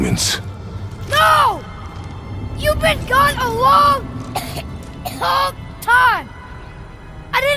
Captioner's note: cough